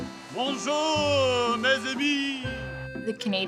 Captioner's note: speaking in foreign language